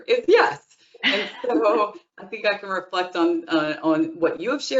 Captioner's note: chuckling